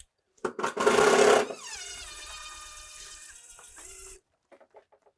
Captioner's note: power tool whizzing